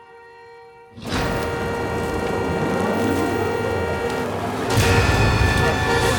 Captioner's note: car horn honking continues; intense music